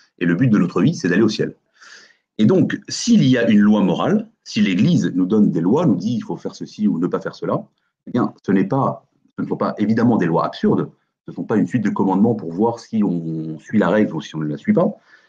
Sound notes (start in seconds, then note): none